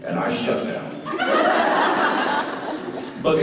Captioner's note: laughter